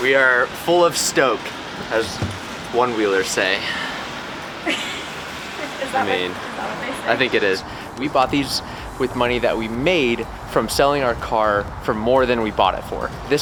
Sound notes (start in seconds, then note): 5.3 giggles quietly